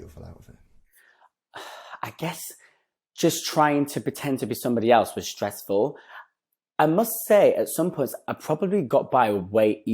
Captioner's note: sighs